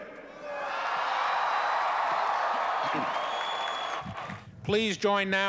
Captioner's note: cheering